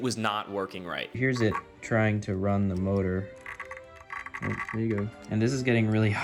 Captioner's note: weird clicking noises